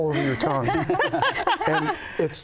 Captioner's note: laughter